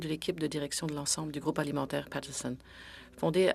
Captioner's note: speaking French